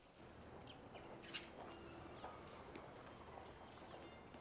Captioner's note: birds chirping